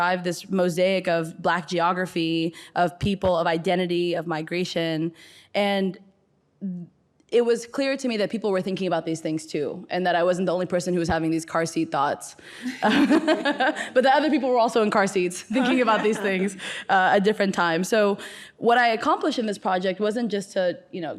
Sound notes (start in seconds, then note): 12.6 laughs